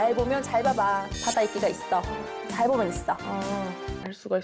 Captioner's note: sound effect that makes you squint